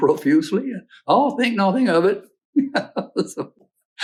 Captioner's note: laughs